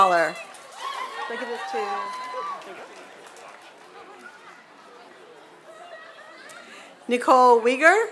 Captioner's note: applause